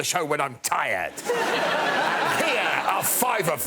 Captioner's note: laughter